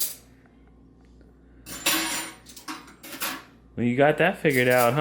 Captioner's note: clanging silverware